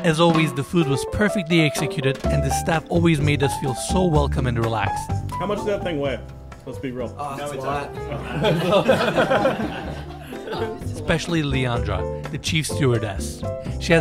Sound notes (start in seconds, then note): 8.1 laughing